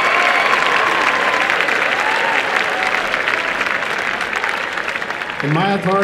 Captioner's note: applause and cheering